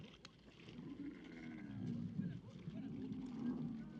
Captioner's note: camel groans